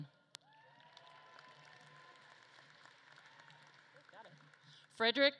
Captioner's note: audience claps and cheers